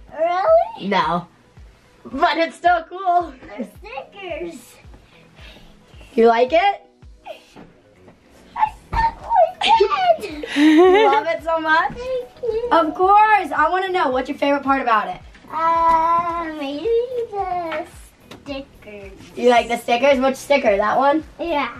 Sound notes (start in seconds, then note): 3.3 laughs; 8.6 laughs